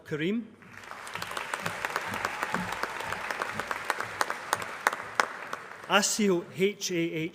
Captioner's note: applause